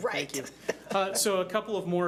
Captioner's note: laughing